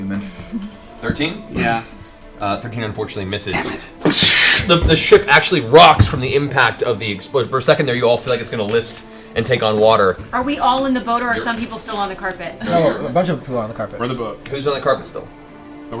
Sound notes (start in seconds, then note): 4.1 gun blast sound